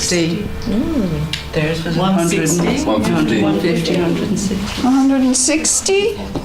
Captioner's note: audience chatter